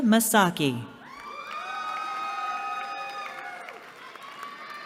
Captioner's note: cheering